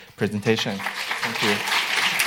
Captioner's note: applause